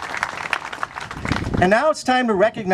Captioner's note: clapping